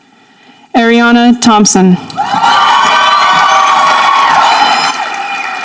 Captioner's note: audience applauding